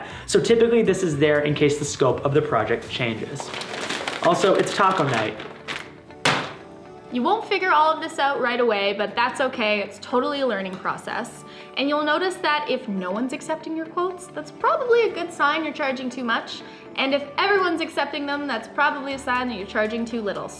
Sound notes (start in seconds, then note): 6.1 bag crashes